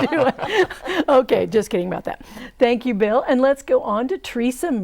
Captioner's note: laughing